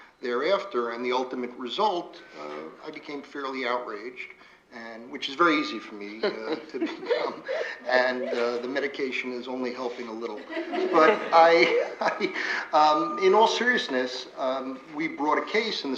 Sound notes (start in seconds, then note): 9.8 laughter